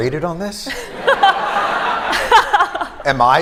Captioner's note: laughter